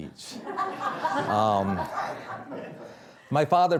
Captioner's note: audience laughing